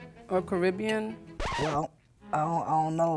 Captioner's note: record scratch